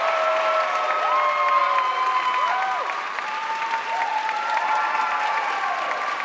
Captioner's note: audience cheering and applauding